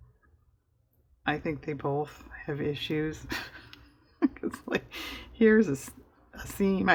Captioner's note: laughs